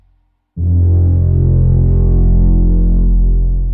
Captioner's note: machine blares